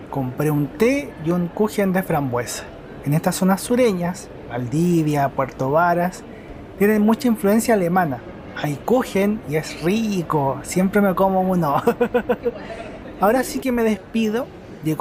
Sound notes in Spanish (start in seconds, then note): 11.7 risas